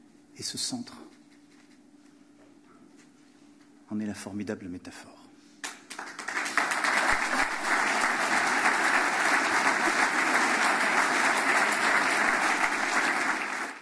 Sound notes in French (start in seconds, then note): 5.6 Applaudissements